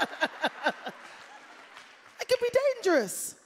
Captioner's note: laughter